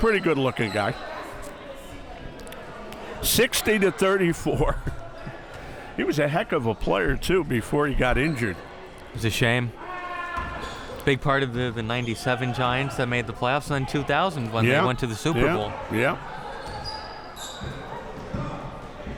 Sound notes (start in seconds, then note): 4.9 laughs